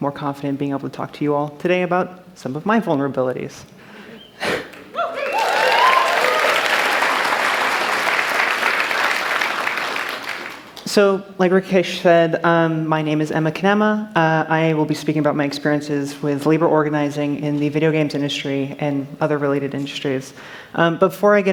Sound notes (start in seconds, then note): 4.9 applause